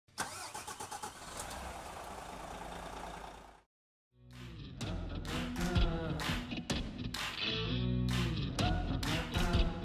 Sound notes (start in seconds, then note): 0.1 engine starting; 4.2 midtempo music